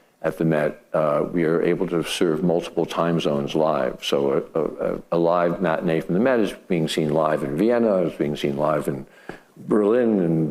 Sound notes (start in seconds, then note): none